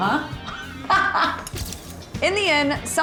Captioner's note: laughter